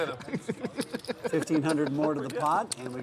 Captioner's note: laughing